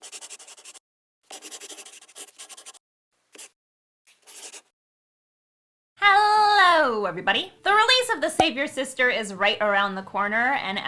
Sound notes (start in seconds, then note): 1.2 the sound of a pen scratching